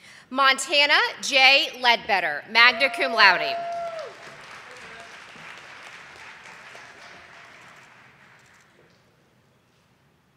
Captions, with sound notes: Montana Jay Ledbetter, magna cum laude. (audience applauding)